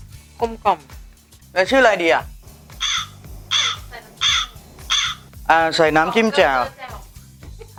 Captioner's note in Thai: เสียงอีกา